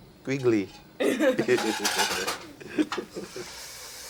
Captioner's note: both laugh